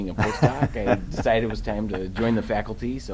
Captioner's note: laughing